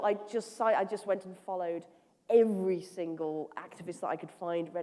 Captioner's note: none